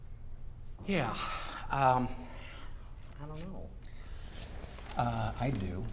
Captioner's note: sighing